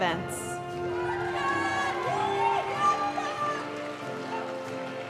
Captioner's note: audience cheering and applauding; graduation music